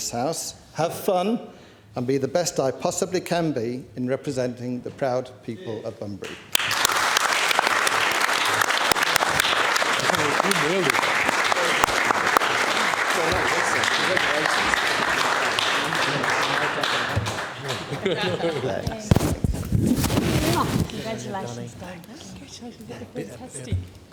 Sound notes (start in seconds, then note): 9.9 applause